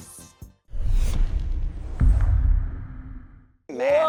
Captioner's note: whooshing